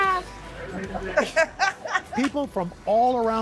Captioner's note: laughter